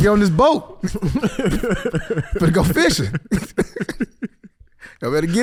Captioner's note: laughs